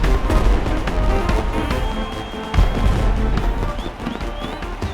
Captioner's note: crowd cheering